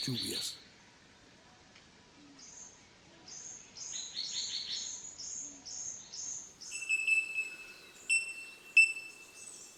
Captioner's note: birds chirps